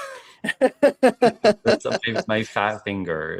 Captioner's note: laughing